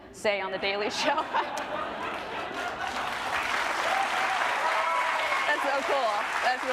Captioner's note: group laughing and applauding